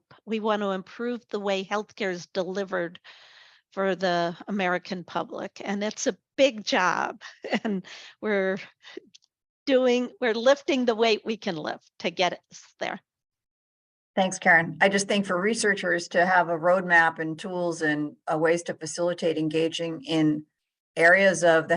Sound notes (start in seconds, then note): 6.6 chuckles